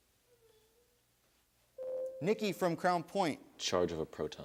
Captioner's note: buzzer sounds